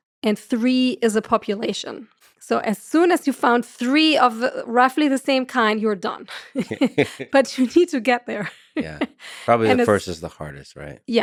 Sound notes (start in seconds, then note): 9.2 chuckles